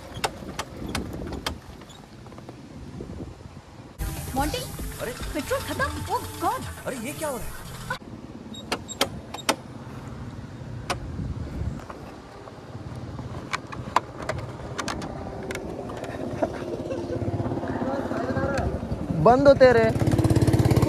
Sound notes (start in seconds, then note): 16.0 chuckles